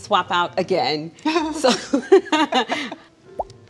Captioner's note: all laugh; light music